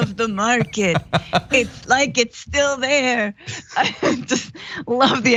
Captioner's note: laugh